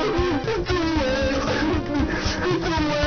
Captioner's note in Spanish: Sollozo